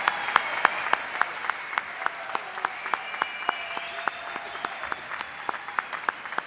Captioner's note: applause